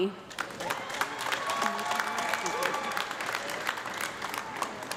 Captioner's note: audience clapping